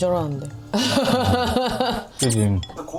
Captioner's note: laughing